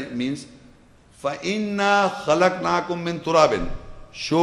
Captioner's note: Arabic